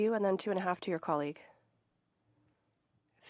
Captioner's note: speaking French